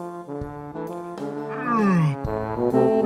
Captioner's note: yawns